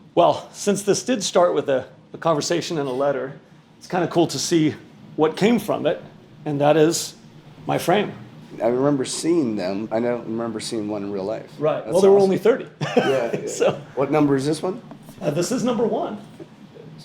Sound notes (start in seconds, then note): 12.8 laughs